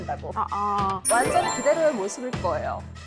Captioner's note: confident sound effect